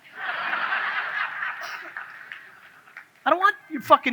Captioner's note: audience laughs